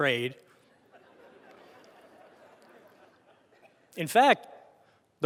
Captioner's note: audience laughter